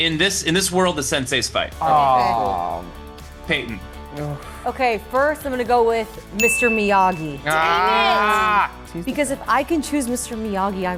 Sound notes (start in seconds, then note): 7.4 group groans